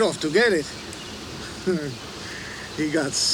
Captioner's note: Crecencio chuckles